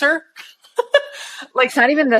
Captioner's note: laughing